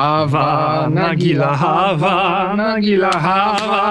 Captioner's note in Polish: owce śpiewają